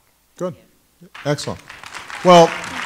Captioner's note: applause